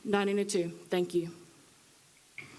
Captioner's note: speaking foreign language